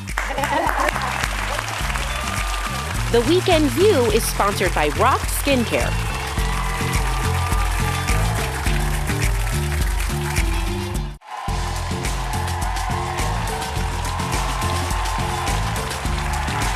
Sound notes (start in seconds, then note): 0.3 audience applauding; 6.0 audience applauding; 9.2 upbeat music